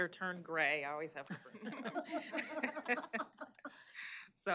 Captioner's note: laughter